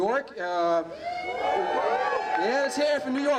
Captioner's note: applause